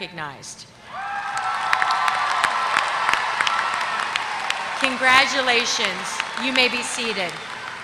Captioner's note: applause